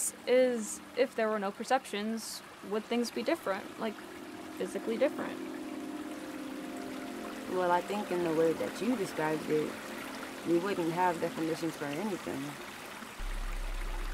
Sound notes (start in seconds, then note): 5.6 mellow music; 5.6 water flows